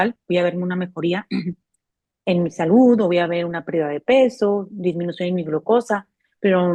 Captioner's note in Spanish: carraspeo